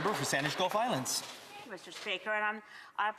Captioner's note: some Applause